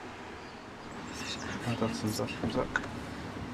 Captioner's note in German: auf Schweizerdeutsch